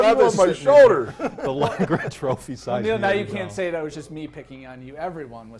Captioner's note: laughter